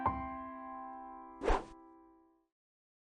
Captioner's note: swooshes